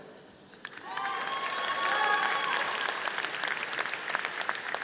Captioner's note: audience applauding